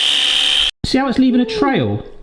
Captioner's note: whizzing